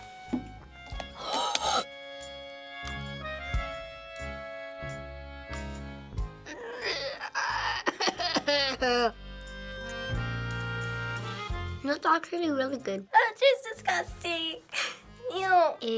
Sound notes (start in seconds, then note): 1.1 wheezes; 6.4 groans and coughs